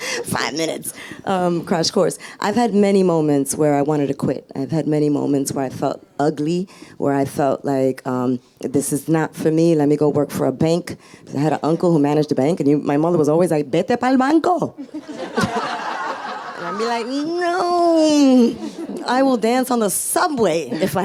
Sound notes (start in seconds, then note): 13.7 speaking in foreign language; 14.8 audience laughs